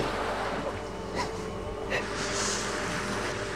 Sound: sobbing

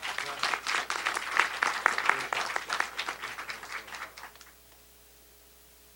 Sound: applause

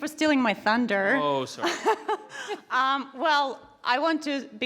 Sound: laughs

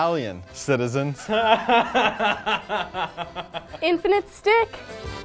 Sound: laughing

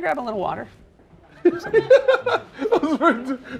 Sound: laughter

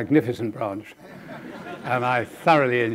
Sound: audience laughing

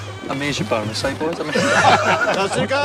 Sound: everyone laughs

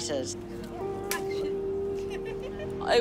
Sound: chuckles

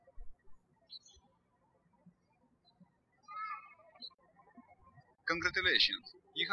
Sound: birds chirping

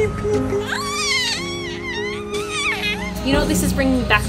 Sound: squeals

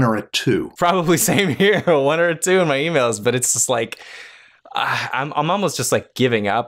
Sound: chuckles

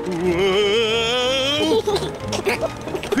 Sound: george giggles

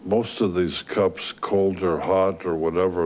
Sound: none

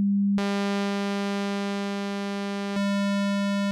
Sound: low synthesized buzzing; high synthesized buzzing

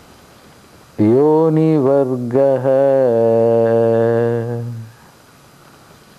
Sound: chants

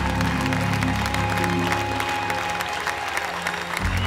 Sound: applause

